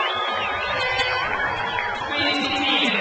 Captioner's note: horn blows